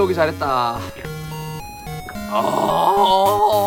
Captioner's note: guzzling